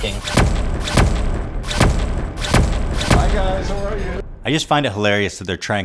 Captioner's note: clips replay with zoomin and zapping sounds